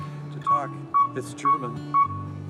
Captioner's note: amplifier chirps